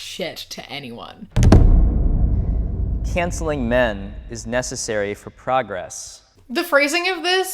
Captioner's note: booming sound